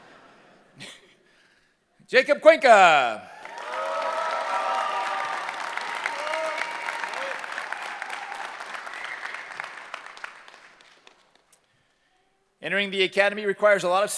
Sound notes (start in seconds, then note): 3.2 cheering